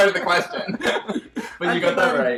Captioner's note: both laughing